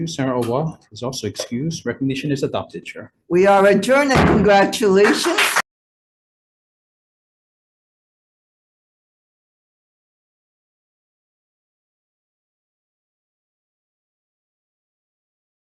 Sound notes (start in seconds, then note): 4.1 gavel thudding; 4.9 audience applauding